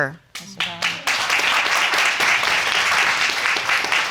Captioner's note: audience applauding